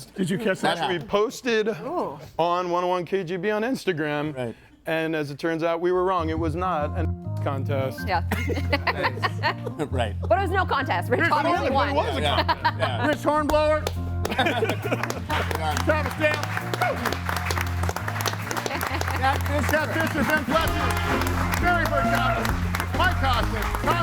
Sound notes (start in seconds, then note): 8.3 laughs; 14.2 group laughs; 14.3 laughs; 16.6 audience applauds and cheers